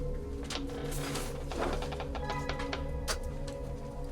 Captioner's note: door creaks; ominous music